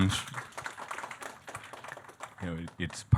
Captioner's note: audience clapping